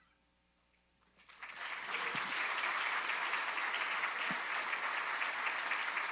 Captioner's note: audience applauding